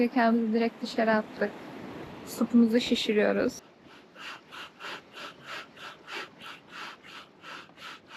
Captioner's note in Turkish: nefes nefese kalma